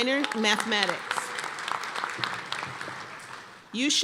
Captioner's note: applause